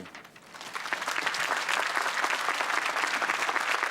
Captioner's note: applause